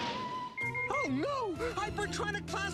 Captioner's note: beeping